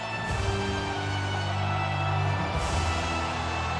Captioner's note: audience cheers; ominous music continues